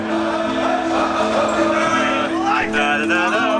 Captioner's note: group cheering